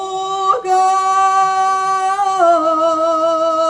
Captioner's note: scream